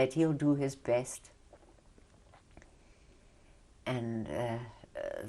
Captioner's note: pauses for 3 seconds